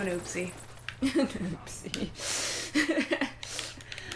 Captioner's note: laughter; laughing